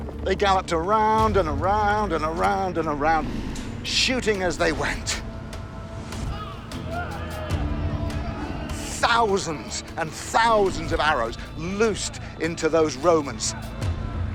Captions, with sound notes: They galloped around and around and around and around, shooting as they went. [shouting] Thousands and thousands of arrows loosed into those Romans.